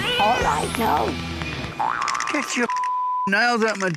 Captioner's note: meows